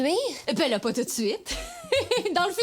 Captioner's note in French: rire